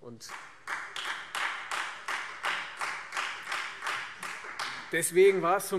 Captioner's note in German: Beifall Freie Demokraten